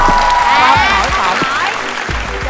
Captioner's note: wind